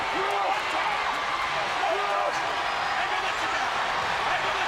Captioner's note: audience cheering